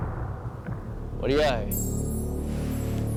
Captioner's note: speaking somali